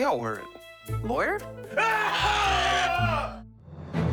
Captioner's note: bird squawks; mascots yell; triumphant music